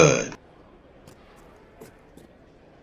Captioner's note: foot steps